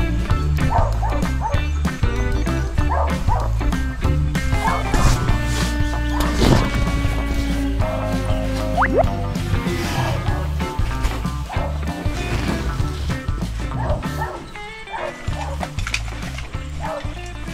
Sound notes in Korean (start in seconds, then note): none